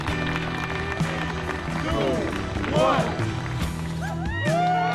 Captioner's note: crowd claps; crowd; crowd cheers